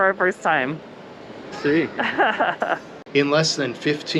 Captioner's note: laughs